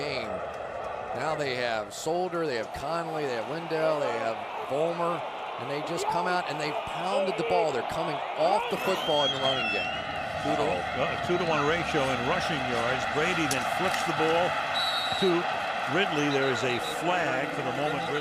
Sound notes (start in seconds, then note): 14.7 whistle blows